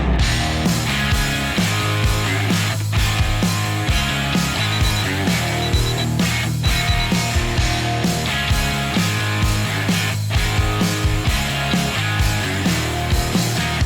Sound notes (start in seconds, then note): 0.2 upbeat rock music; 4.3 beeping